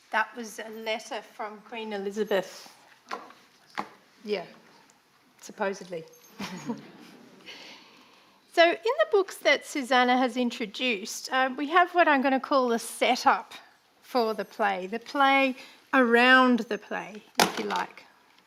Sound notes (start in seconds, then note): 6.3 chuckles